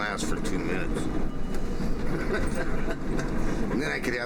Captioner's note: laughs